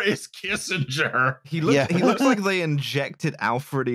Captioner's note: laughs